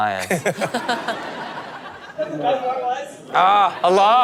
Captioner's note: audience laughs